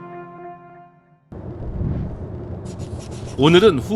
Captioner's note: sound of wind